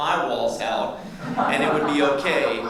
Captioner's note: audience laughs